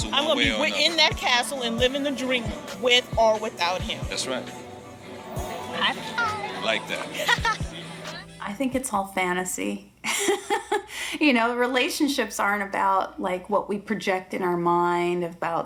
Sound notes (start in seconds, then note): 10.8 laughing